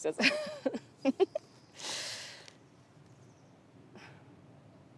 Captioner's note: Kimberly and Bethany laugh